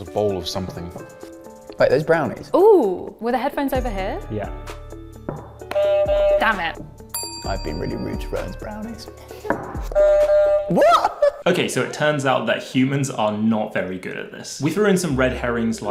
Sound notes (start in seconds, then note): 5.6 buzzer buzzes; 9.9 buzzer buzzing